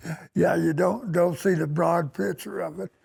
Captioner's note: laughter